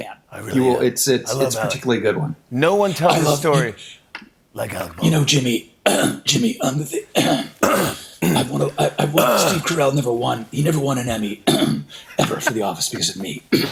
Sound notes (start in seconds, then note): 7.1 clears throat